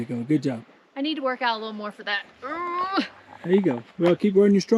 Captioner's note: groans